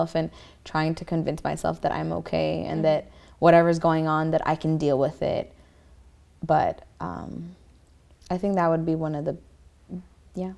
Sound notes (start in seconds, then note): none